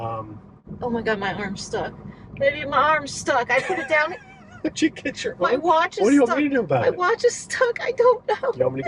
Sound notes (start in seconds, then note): 3.5 laughing